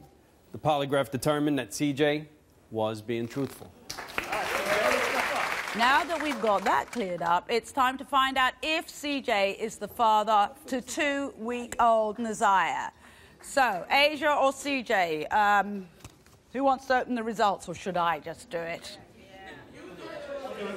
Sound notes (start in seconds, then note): 3.9 applause